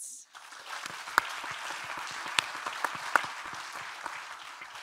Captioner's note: audience applauding